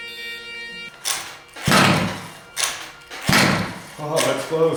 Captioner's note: cranks